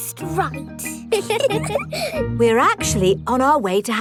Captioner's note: both giggle